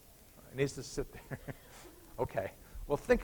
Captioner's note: chuckles